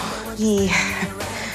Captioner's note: chuckles